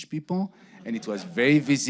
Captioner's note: audience laughing